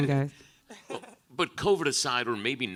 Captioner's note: laughs